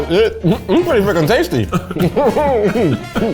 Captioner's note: both laughs